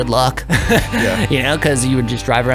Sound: both laughing

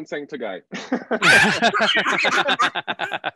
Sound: laughter

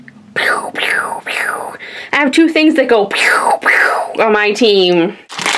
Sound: laser Sounds; laser Sounds

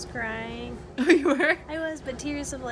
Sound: cute laugh

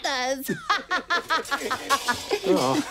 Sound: clatter; both laugh

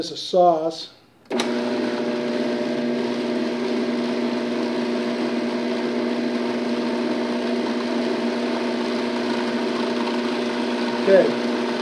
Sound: robot coupe whirring

